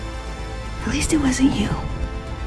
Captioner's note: voiceover